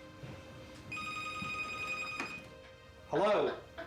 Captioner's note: telephone rings